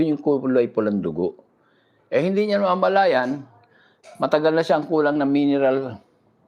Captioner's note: none